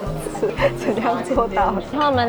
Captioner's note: laughs